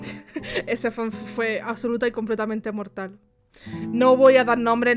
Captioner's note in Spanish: risas